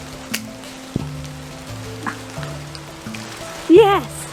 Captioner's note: wooden cracking